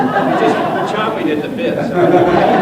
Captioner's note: laughter; applause